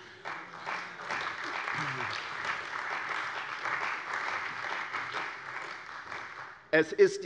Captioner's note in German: Beifall bei der CDU und dem BÜNDNIS 90/DIE GRÜNEN